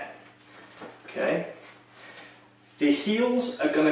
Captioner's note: chair creaks